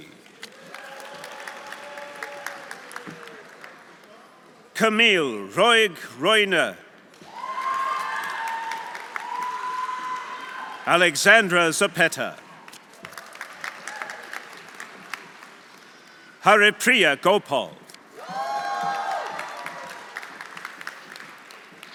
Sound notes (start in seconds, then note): 0.2 audience applauding; 0.6 audience cheering; 7.3 audience cheering; 7.4 audience applauding; 12.6 audience applauding; 13.8 audience cheering; 18.2 audience cheering; 18.2 audience applauding